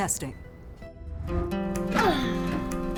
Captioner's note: grunting